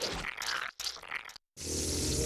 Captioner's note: slurping